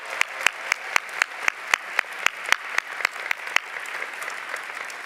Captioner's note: applause